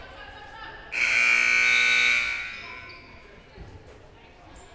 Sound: loud buzzer blaring

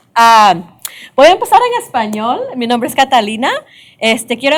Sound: speaking spanish

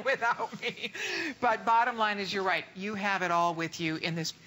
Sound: laughter

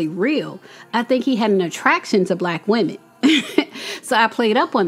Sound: laughs

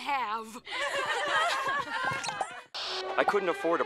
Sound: laughing

